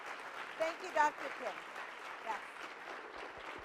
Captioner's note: continued applause